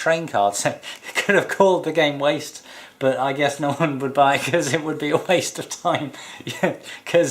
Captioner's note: chuckling